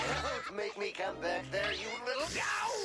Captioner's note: laughing